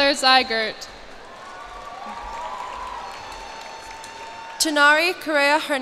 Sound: cheers and applause

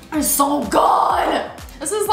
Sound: yells

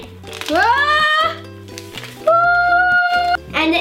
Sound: screams

